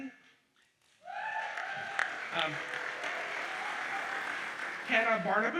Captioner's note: audience cheers and applauds